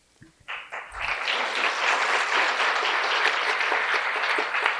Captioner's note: applause